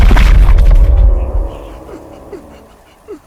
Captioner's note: gasping